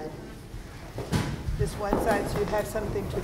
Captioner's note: bodies rustling